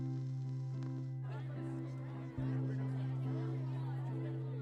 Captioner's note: people chattering